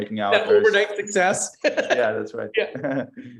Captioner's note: laughs